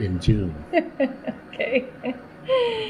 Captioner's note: laughter